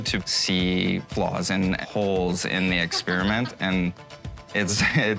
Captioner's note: faded laughter